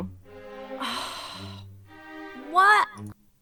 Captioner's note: mother sighs